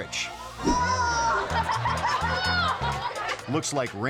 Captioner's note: all gasping; audience laughing